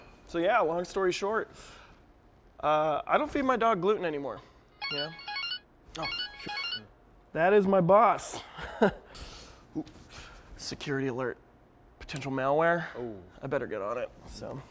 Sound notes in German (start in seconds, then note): 4.8 Telefon klingelt; 8.6 lacht